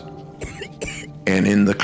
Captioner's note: child coughs